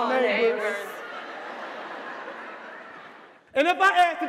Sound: audience laughing

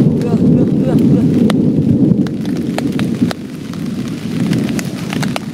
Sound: thunder

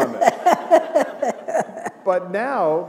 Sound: laughter

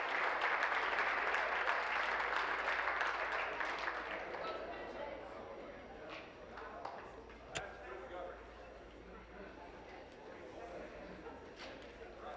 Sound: applause; cheering

